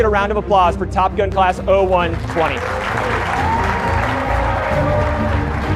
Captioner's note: audience applauding